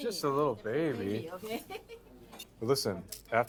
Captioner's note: laughs